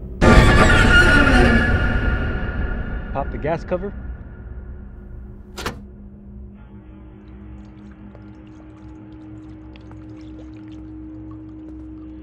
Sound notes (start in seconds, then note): 0.2 suspenseful music; 7.2 gas pouring